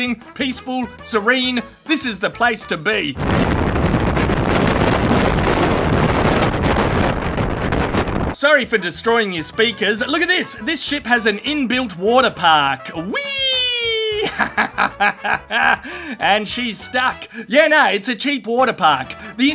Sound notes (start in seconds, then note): 3.1 strong Wind